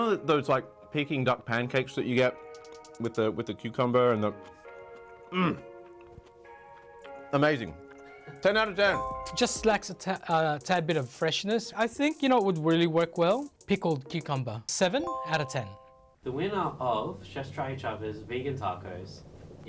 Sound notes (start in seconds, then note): 8.9 chime; 15.0 chime